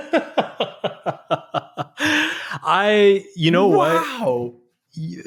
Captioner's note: chuckling